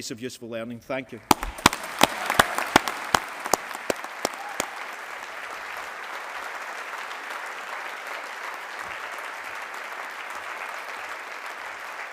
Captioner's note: applause